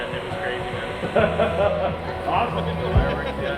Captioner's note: laughter